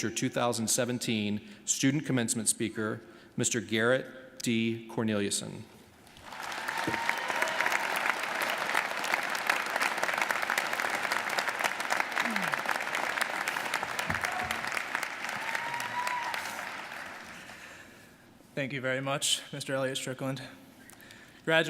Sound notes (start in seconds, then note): 6.4 audience applauding